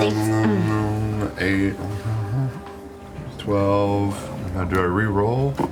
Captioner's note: hums